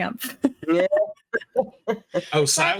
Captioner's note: cast members laughing